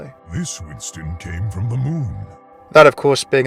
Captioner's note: voiceover